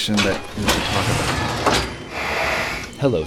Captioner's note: metal sliding